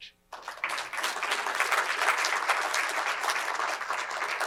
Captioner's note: crowd applauds